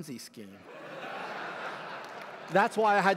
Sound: laughter

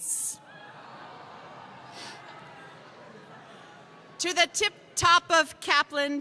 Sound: crowd noise

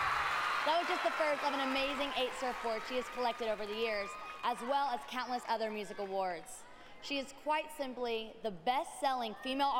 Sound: cheers and applause

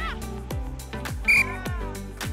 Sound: whistle

